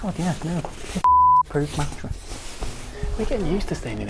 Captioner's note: beep